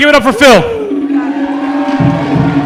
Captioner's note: applause